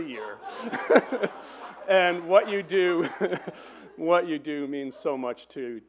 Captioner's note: laughs